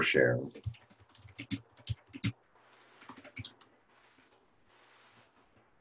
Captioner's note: typing Sounds